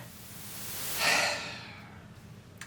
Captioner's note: sigh